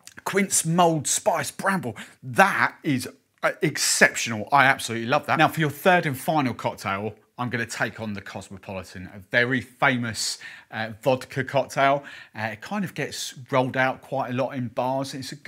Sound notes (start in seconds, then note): none